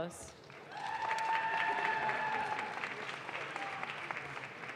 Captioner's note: audience claps